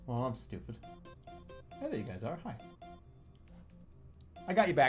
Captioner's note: none